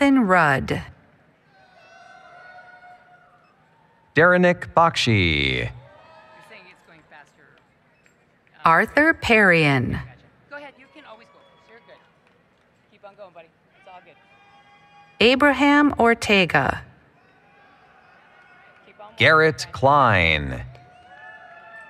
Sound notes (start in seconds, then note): 1.8 applause, Cheering; 6.4 background Conversation; 10.0 background Conversation